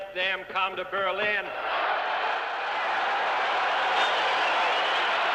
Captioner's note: cheers and applause